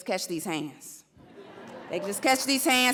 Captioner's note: audience laughs